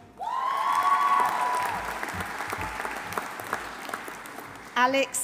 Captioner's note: audience cheering; audience applauding